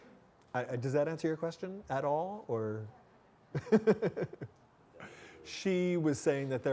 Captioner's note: laughing